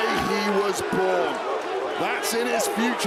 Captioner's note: crowd cheers